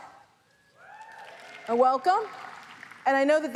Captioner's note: audience applauds